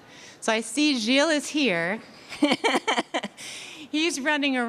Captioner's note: laughing